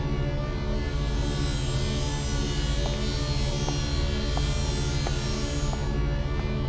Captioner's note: Rollhog rolling